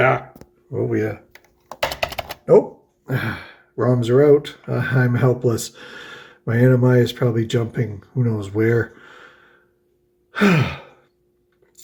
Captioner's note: sighs